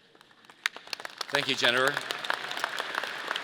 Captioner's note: audience applauding